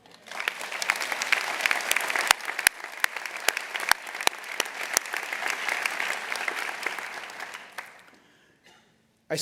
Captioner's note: applause